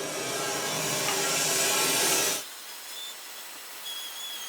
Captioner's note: saw blade whirring